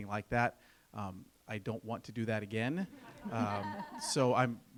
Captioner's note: laughter